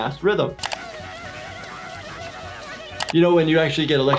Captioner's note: keyboard clicking; Fliqpy screeching; electricity crackling